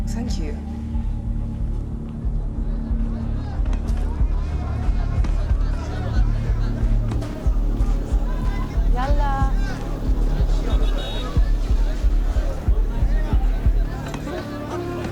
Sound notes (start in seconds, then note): 2.1 intense music; 6.6 townspeople chattering; 11.5 horns beeping